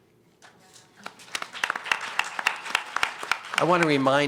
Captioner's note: applause